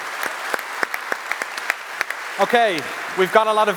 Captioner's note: applause